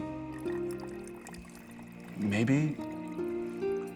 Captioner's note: continues pouring